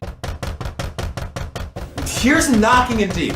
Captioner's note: knocking within